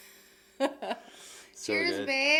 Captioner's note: laughing